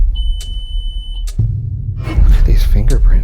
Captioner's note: machine beeps